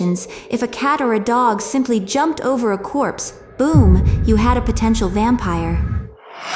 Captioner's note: boom